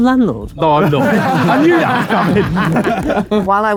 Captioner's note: group laughing